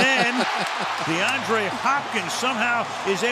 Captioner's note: laughs